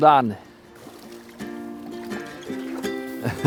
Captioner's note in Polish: śmiech